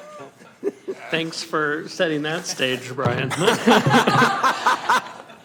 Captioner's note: some Laughter